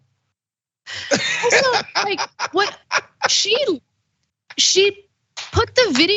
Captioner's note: laugh